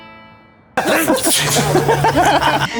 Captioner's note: laughing